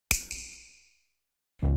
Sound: snap

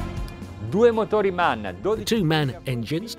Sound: speaking in foreign language

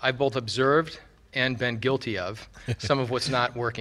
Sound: laughing

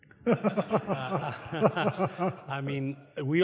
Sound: audience laughs

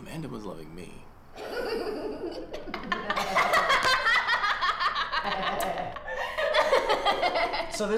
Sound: laughing

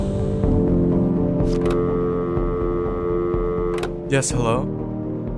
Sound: phone dial tone

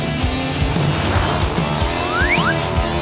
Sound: truck soaring

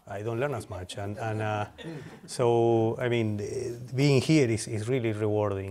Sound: laughter

